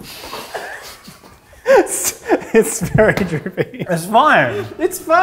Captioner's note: laughing